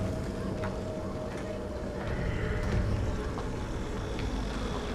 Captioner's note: wind howling; footsteps